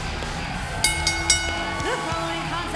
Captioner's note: bell ringing